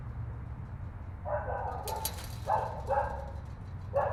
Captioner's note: dog barking in background